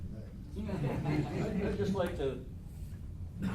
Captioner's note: laughs